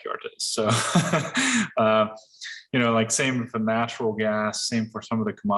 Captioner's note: laughs